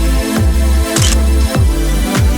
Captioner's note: photo Click